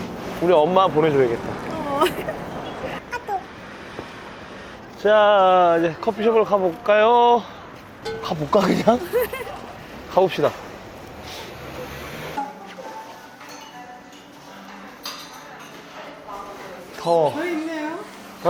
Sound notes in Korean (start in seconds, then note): 8.8 웃음